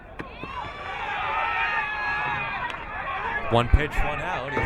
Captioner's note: crowd cheering